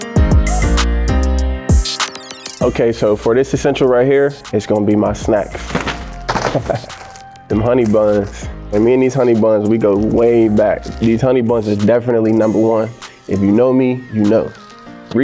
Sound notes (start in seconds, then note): 5.5 snacks thumping; 6.4 Damar laughing